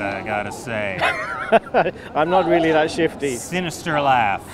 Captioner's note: laughs